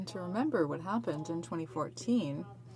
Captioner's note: speaking French